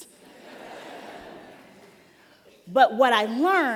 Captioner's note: laughter